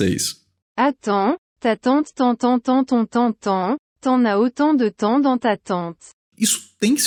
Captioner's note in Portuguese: voz do google tradutor